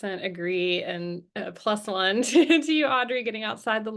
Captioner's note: chuckles